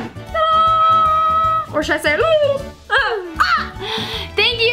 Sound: drum roll; trills

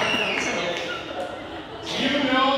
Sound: audience laughing

